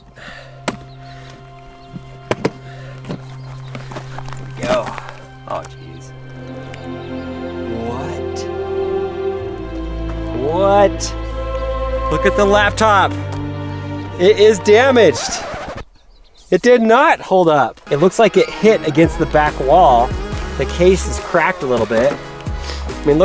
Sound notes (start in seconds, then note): 0.2 latches opening; 0.2 suspenseful music; 2.8 case opening; 15.0 record scratching noise